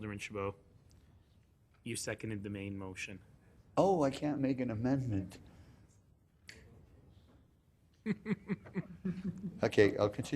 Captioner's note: laughing